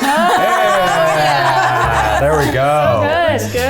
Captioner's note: everyone laughs